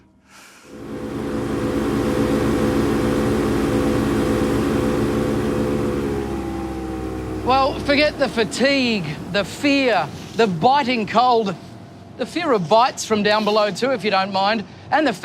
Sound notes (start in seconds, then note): 1.0 boat engine revving